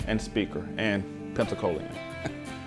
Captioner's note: laughs